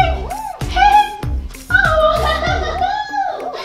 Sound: laughs

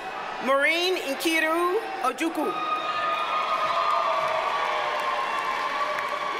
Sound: audience cheers and applauds

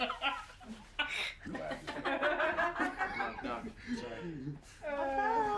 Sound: laughing

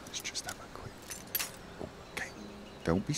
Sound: whisper

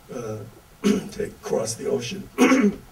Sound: clears throat

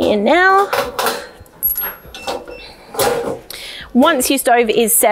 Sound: rack crackling

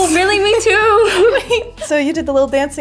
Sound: laughing

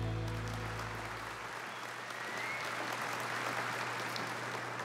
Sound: audience applauding

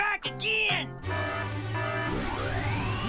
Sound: alarm blaring; whirring

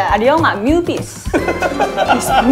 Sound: laughing

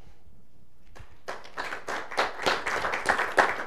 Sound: applause

